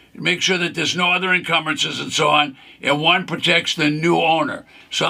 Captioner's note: none